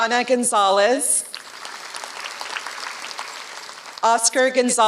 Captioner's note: applause